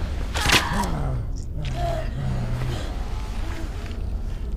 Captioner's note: guts squishing